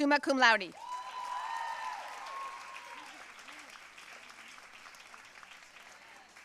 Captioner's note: audience cheering and applauding